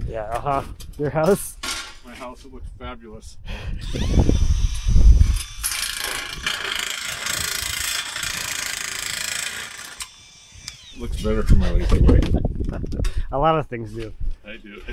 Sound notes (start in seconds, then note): 3.8 tool whirring